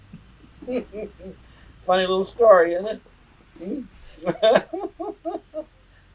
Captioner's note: laughs